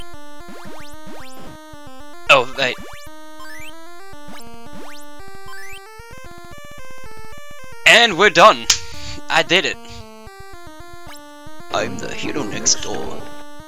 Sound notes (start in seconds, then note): 8.7 clap